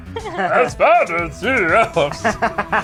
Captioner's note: laughs; reads in silly voice; laughs